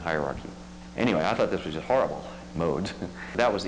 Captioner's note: laughs